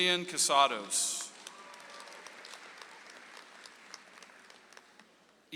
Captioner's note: audience applauds